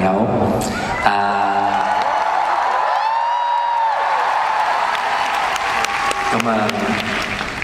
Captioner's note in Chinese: 拍手